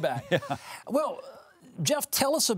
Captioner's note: Jeff chuckles